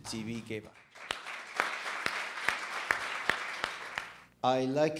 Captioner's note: audience clapping